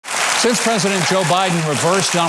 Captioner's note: audience applauding